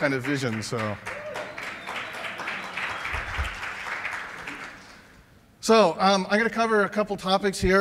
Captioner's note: cheers and applause